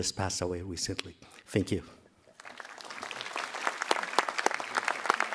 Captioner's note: applause